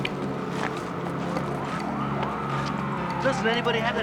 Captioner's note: distant sirens wailing